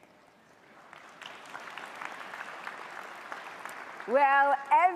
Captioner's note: audience applauds